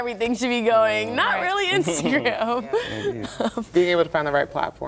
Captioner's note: laughter